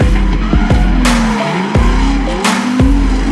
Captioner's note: skrrrrrt